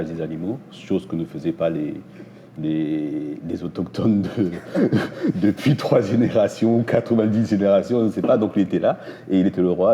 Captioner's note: laughs